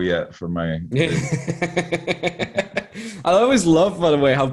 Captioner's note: chuckling